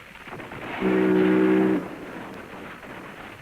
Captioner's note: ship's horn sounding